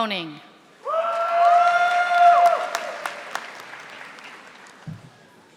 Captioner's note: audience applauding